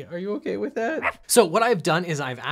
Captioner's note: dog barks